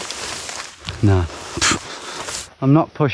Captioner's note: scoffs